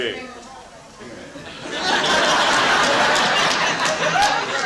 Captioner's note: laughter